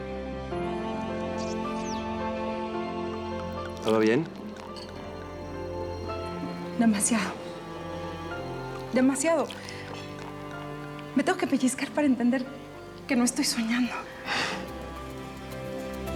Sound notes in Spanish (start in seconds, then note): 2.9 sonido al servir bebida